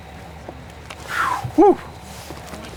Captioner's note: inhale